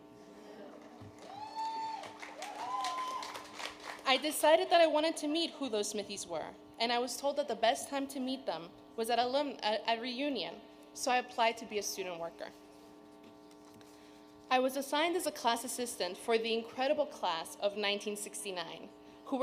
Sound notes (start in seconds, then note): 1.1 audience cheering